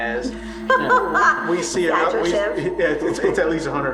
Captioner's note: laughter